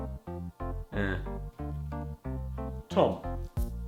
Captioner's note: grunt